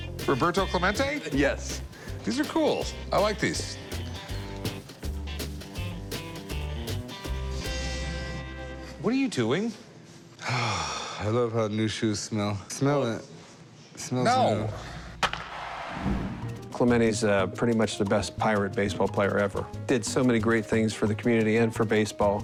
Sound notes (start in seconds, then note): 7.5 sniffing